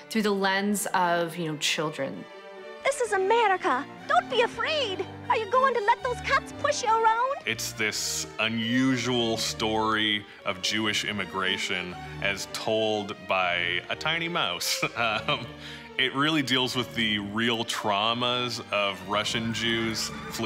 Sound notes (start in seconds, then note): 14.8 laughs